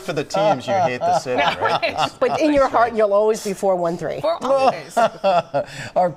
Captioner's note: laughter